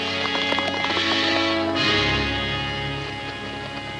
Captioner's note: horses galloping